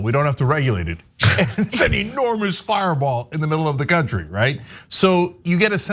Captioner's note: laugh